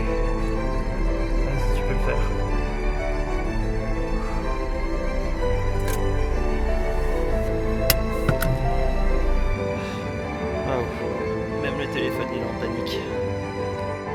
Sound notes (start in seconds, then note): 6.1 normal engine sound